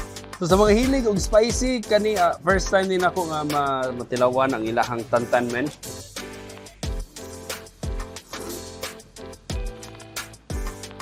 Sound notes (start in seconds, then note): 6.0 upbeat music continues; 8.0 slurping